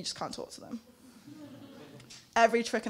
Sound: laughing

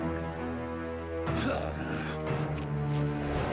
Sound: scoffs

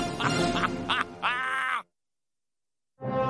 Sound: evil laughing

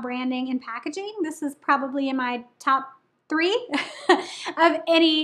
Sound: giggling

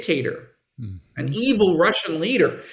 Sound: foreign language

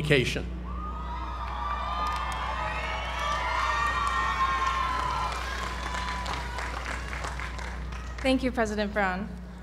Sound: applause

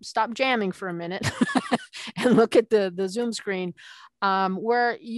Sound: laughing

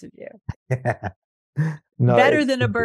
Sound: laughs

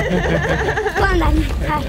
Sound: laughing; speaking Romanian

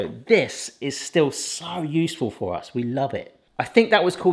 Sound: none

